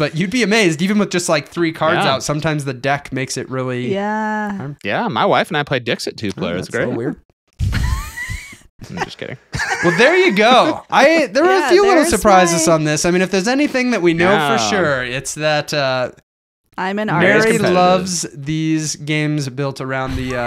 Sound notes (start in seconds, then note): 8.9 laughing